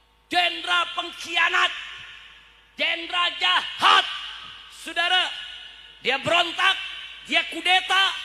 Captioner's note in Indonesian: berteriak